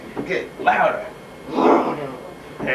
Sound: growls

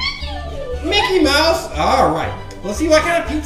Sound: voiceover

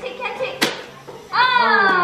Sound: toaster pops

